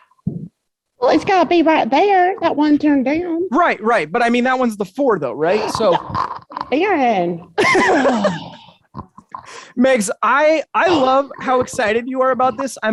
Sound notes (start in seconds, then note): 5.4 chuckles; 8.5 exclaiming